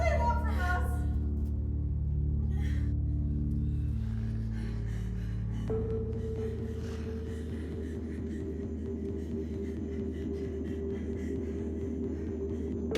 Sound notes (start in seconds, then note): 5.2 Alex breathing heavily; 8.2 rapid suspenseful music